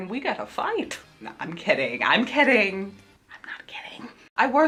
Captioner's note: whispered